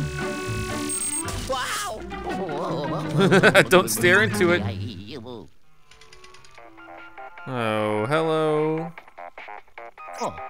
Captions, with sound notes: - Wow! - [Voiceover] (laughter) Don't stare into it! (cartoony digital ringtone) Oh, hello?